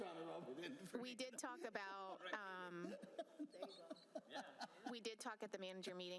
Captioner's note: laughter